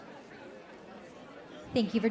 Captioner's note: crowd chattering